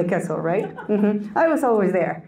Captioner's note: audience Member laughs